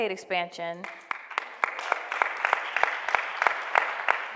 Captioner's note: applause